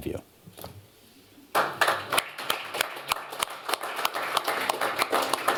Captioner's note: applause